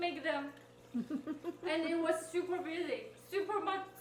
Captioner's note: interviewer laughing